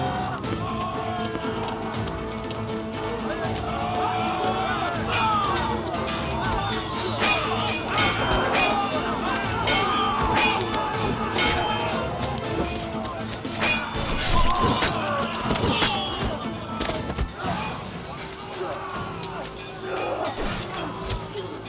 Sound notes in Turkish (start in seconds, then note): 0.2 Aksiyon müziği; 4.7 Kılıç sesleri; 13.6 İnliyorlar; 17.2 Kılıç sesleri